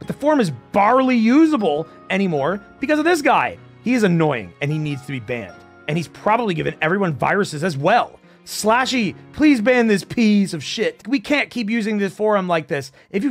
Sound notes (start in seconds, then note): none